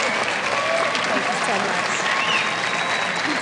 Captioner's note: applause